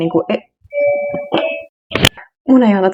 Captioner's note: doorbell rings